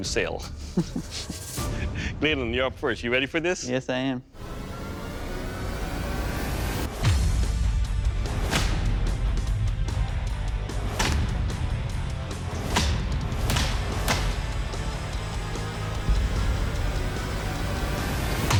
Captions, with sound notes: [laughter] Gladen, you're up first. You ready for this? Yes, I am. [rock music] [impact sounds]